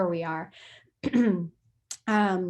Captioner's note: clears throat